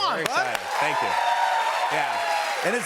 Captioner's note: cheers and applause